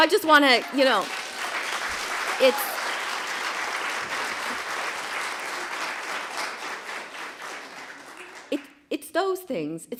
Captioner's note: applause